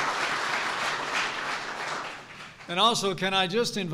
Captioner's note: applause